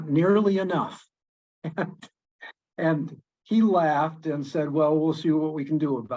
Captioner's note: laughs